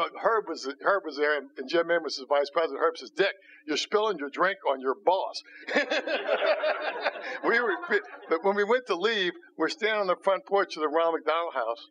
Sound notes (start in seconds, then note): 5.6 laughter